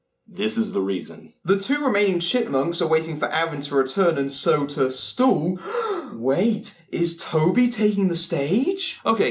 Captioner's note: gasp